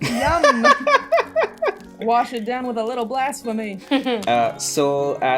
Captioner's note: laughter